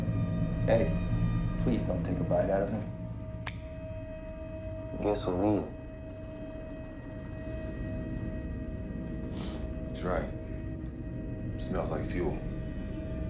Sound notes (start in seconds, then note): 8.9 Jackson sniffs